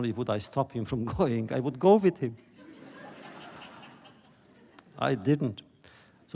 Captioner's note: laughter